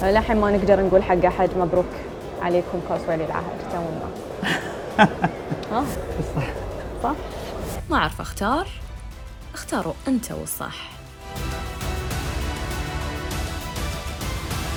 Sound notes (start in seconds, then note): 4.4 laughing